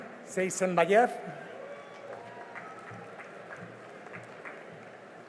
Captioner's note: cheering and applause